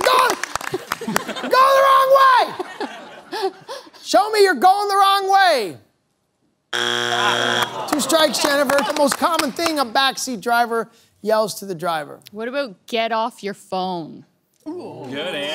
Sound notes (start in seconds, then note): 6.7 buzzer sounds